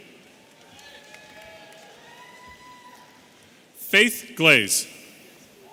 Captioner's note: audience cheering